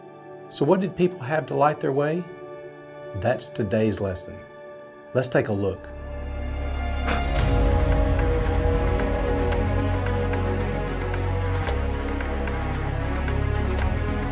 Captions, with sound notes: So what did people have to light their way? That's today's lesson. Let's take a look. (blows) (dramatic music)